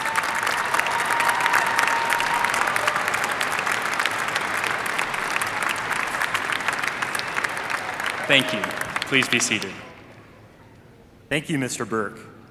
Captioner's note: applause